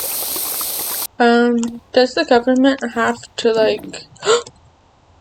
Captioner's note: gasp